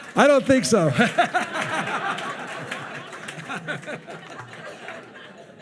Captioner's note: attendees laughing continues